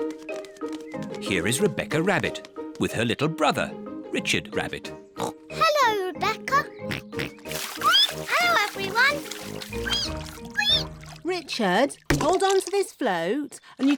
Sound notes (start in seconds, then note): 6.8 oinks; 9.8 squeaks; 9.8 richard squeaks